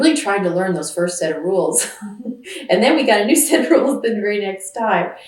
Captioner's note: laughs